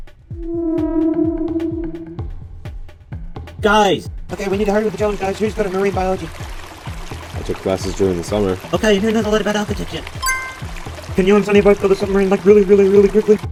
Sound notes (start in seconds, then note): 0.3 horror realisation sound; 10.2 notifying sound